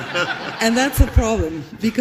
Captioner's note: laughs